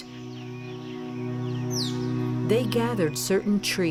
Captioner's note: wildlife chittering